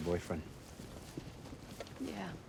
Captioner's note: footstep